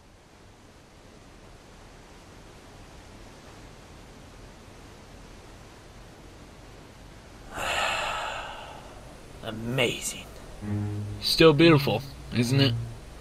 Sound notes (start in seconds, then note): 7.4 satisfying sigh